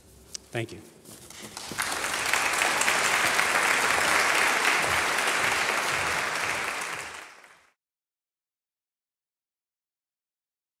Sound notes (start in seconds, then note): 1.3 applause